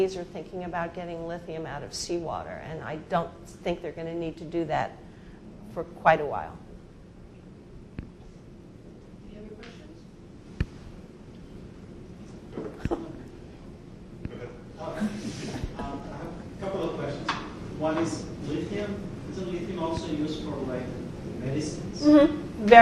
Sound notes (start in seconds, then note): 15.0 audience laughing